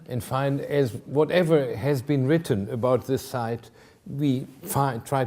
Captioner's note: none